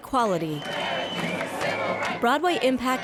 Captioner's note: protestor's chanting